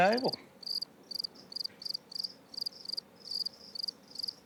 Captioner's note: crickets chirping